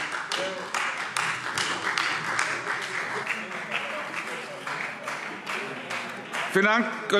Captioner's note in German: Beifall Freie Demokraten